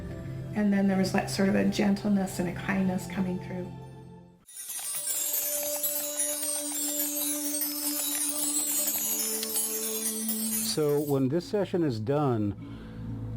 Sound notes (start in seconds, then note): 4.6 keys typing; 5.1 eerie music